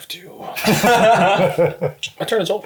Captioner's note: all laugh